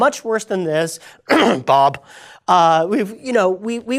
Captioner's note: coughs